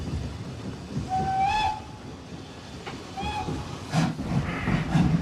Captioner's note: peluit kereta ditiup